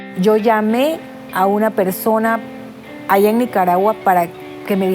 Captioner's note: speaking Spanish